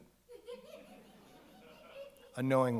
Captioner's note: audience laughs